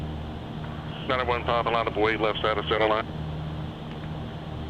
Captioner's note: radio